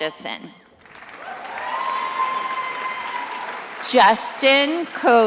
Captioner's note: attendees applauding